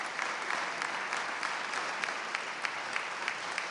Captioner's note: applause